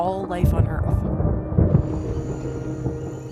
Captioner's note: thunder rumbling, animals and insects calling